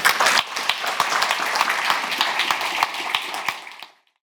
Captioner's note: audience applauds